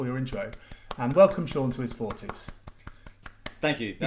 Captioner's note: clapping